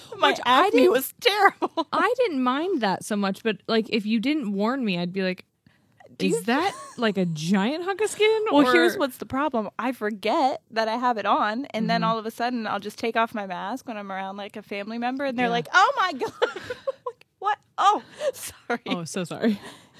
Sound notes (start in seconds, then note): 16.2 laughs